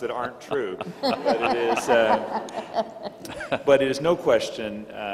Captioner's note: all laughing